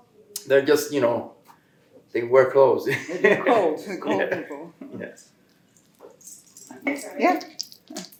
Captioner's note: Spanish